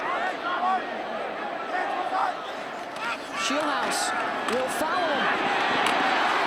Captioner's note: applause